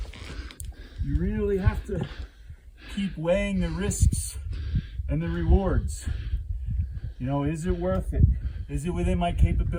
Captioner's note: loud breathing